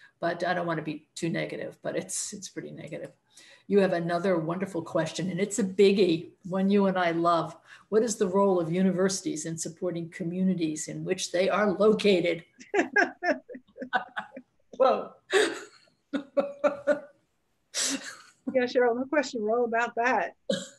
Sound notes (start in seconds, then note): 12.6 laughing; 16.2 laughs; 20.5 laughs